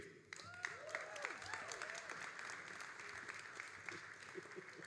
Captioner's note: all applauding and cheering